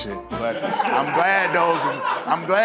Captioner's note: laughs